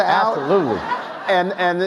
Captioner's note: audience laughs